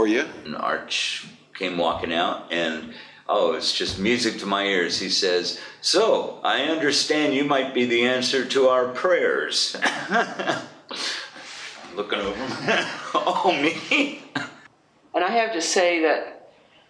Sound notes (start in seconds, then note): 9.7 laughs; 12.2 laughs